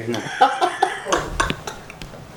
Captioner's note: laughs